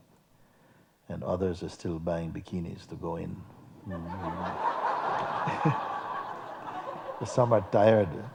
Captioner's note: laughter